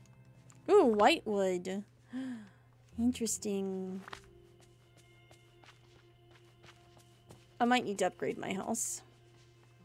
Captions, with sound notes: Ooh, white wood. [Gasps] Interesting. I might need to upgrade my house.